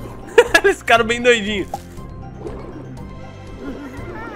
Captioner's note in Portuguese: risos